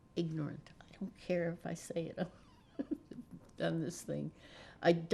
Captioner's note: laughing